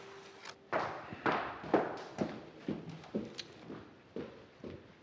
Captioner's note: gentle music; footsteps